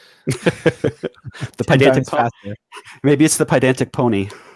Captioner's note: laughing